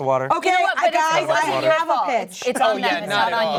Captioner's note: overlapping chatter